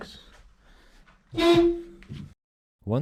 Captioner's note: honk